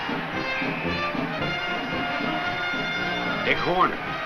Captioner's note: whistle blows